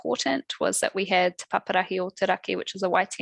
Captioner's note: non-english speech